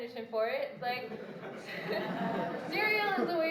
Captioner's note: laughter